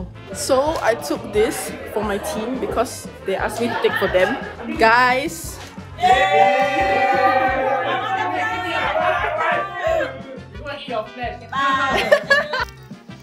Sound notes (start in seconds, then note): 5.9 cheering, yay!! woo~